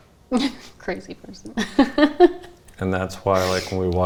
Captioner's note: chuckles; laughs